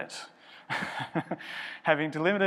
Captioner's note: chuckles